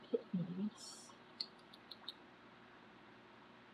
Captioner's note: clicks tongue